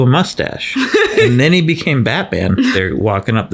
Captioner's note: laughs